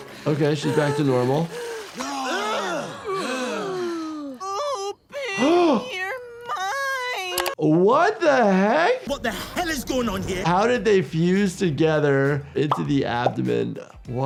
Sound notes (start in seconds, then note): 0.0 Summer gasping; 2.5 partiers gasp; 7.0 gasps